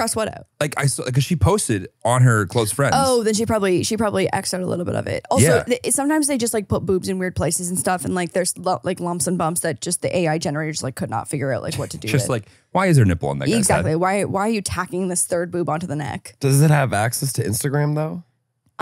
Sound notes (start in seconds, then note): 9.5 laughs